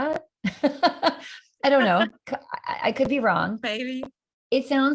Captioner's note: laughter